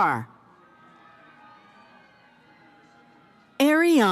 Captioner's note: cheering